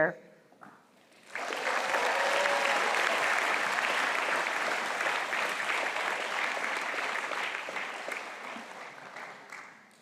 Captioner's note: cheering and applause